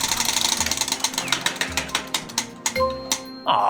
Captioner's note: bell ringing